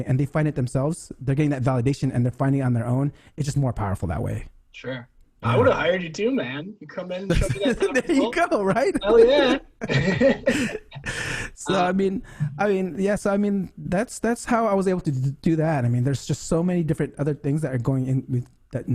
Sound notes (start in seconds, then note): 8.6 laughs